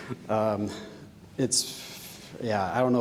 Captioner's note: sighs